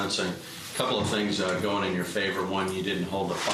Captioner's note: none